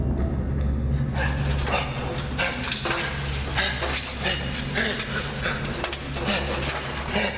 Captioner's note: ominous music; breathes heavily